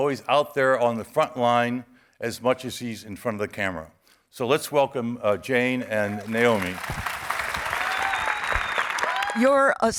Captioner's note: audience cheering